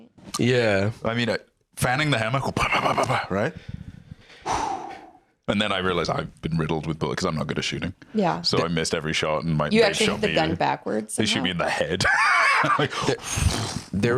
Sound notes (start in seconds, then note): 4.4 blows; 11.5 laughs